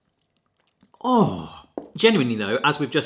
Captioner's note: groaning